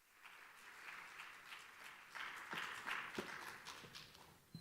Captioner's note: audience applauding